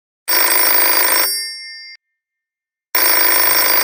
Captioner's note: phone ringing